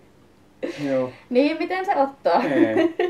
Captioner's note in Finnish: naurahtaa